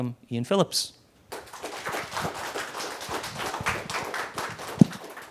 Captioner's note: audience applauding